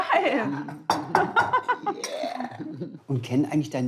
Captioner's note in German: Lachen